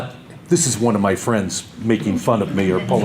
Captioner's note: audience laughter